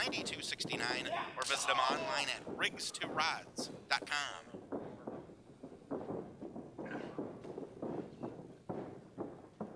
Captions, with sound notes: or visit them online at RigstoRods.com. (floor rumbling)